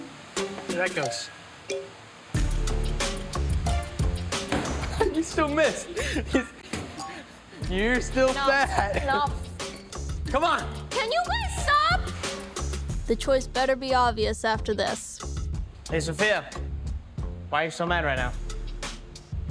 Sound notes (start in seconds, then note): 2.3 playful music; 4.8 laughing